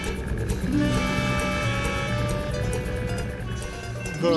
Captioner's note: horn blowing